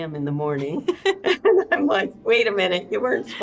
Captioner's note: both laughing